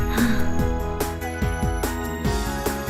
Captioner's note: sighed